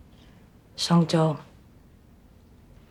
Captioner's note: in mandarin